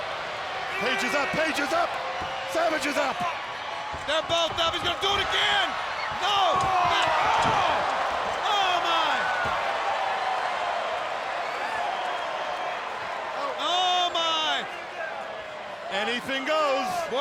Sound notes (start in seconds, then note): 6.7 Page screams; 9.3 spectators shout